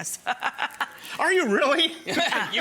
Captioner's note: laughs